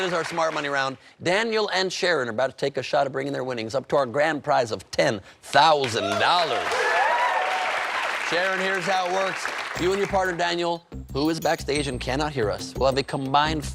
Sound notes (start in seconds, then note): 9.5 cheers and applause